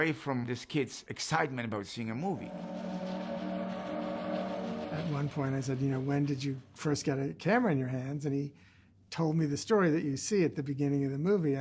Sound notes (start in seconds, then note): 2.4 train whistle blows